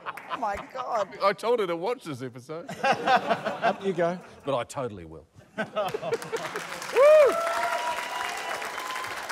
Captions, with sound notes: - Oh my God. - I told her to watch this episode. (LAUGHTER) - Up you go. - But I totally will. (CHEERING, APPLAUSE)